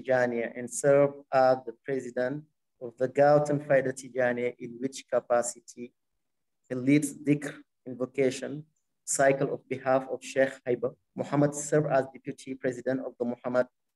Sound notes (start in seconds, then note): 3.2 speaking arabic